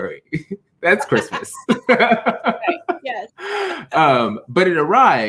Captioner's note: laughs